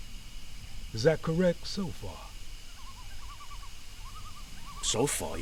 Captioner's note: animals chattering